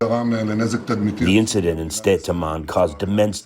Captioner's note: through translator